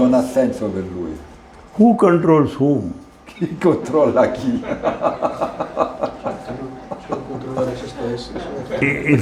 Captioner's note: Risata